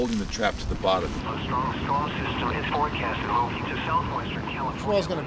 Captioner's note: weather report on radio